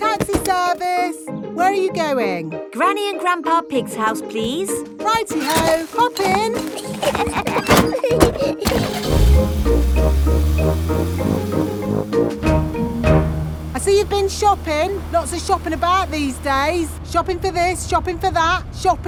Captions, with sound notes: Taxi service! Where are you going? Granny and Grandpa Pig's house, please. -Righty-ho! Hop in. -(LAUGHING) (CAR ENGINE STARTS) I see you've been shopping. Lots of shopping about these days. Shopping for this, shopping for that.